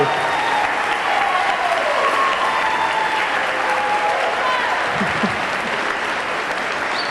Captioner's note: audience cheering; audience clapping